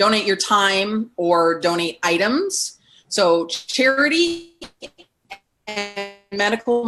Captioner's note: audio distorts